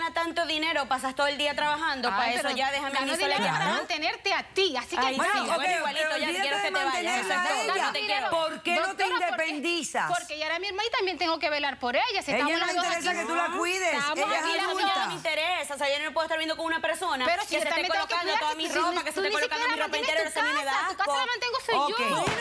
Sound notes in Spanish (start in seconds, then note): 6.0 Hablan al unísono